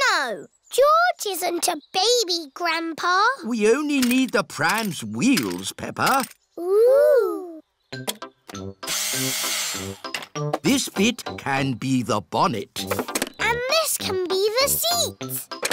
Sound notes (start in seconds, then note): 9.1 whirring